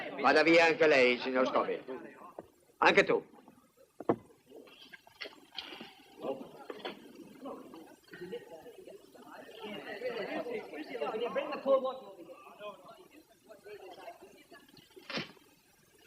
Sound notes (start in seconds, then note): 5.0 all chattering